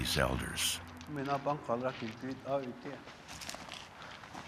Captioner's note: speaking Hopi